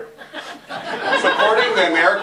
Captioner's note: laughter